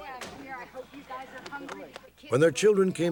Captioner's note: indistinct chatter